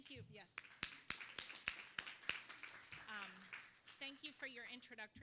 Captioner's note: applause